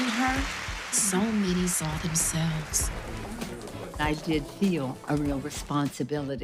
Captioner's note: cheering and applauding